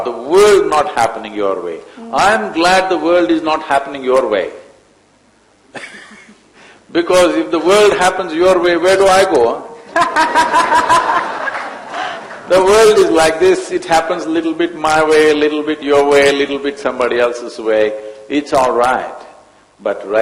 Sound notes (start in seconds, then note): 5.8 laughs; 9.8 laughter